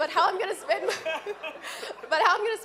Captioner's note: laughing